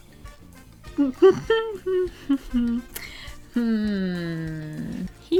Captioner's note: uncomfortable humming